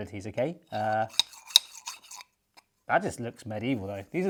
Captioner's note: metal pieces sliding